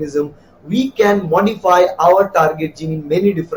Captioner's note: Arabic